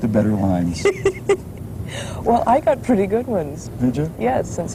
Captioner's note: laughs